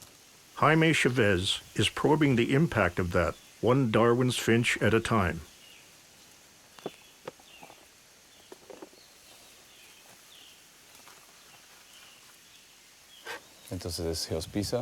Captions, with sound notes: Jaime Chaves is probing the impact of that, one Darwin's finch at a time. (birds chirping)